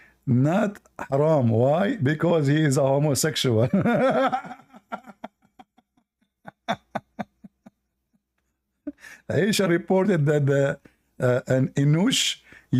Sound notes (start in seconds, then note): 3.6 Ketawa